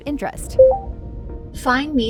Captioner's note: VR System beeps